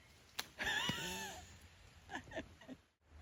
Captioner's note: laughs